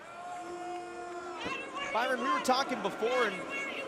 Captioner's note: crowd chatter